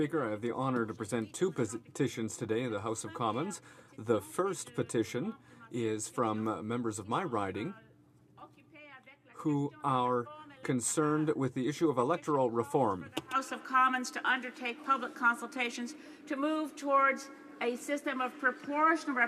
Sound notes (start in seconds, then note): 1.8 speaking French